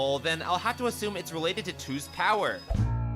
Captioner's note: none